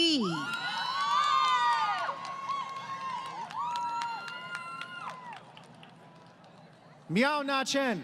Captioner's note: crowd Cheering